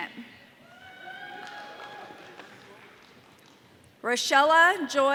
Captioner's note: audience cheering